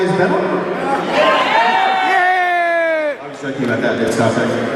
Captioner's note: crowd Laughs and Yayys